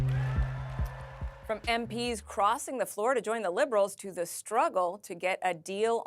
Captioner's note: applause